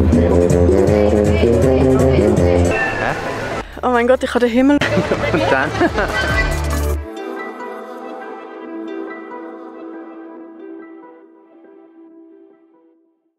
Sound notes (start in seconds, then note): 0.0 brass music; 3.7 in Swiss German; 4.8 laughs